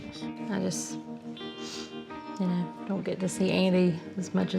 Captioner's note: sniffles